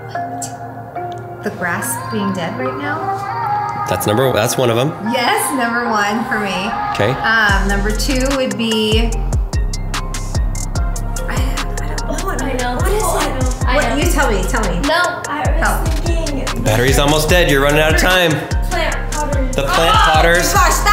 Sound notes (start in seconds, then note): 11.3 kids talking